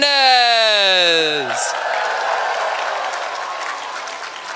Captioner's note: cheering